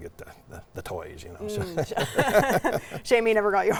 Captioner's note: both laughing